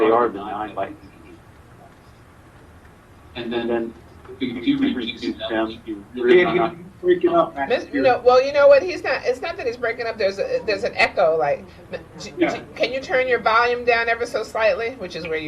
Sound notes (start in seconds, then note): 1.4 audio echoing